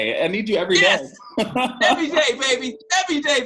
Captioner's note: laughs